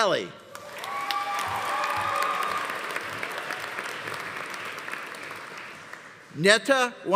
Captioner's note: audience applauding; audience cheering